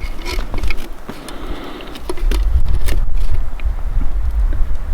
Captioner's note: metal scraping